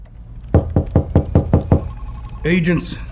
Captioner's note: office sounds fade in; knocking on office door